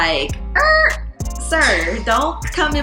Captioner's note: brakes squealing